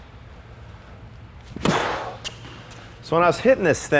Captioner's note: racket hitting the ball